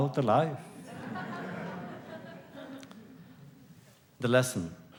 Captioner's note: laughter